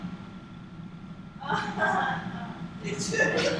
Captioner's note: awkward laugh